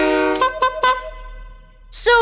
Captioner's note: train horn; honking